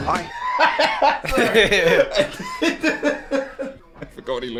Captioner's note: laughing